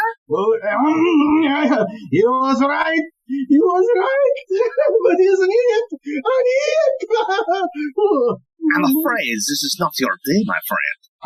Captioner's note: LOMBERT begins laughing uncontrollably